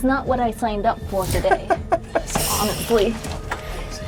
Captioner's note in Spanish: ríe